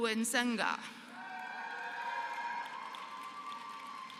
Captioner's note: applause